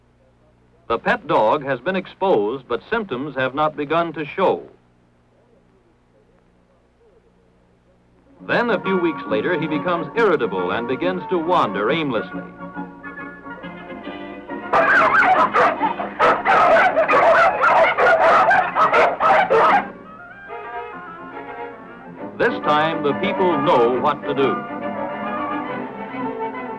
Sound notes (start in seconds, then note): 14.7 sounds of barking